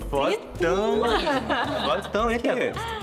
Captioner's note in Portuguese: risos